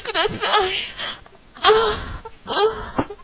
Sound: more anime feminine moans

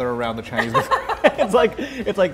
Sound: laugh

